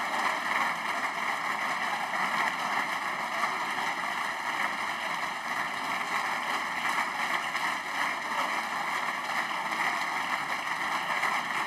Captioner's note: applause